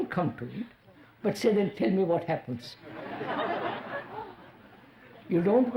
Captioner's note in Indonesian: Tertawa